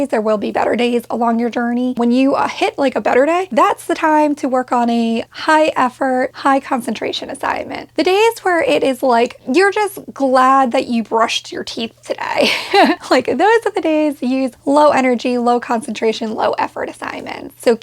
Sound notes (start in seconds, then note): 12.3 laughing